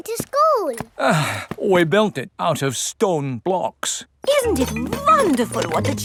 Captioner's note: sighs